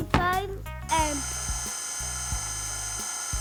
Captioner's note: machine whirring; laid back music